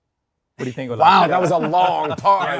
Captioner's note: everyone laughs